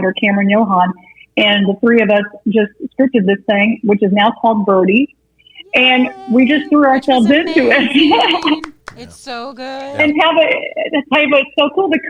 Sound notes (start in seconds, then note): 5.6 laughing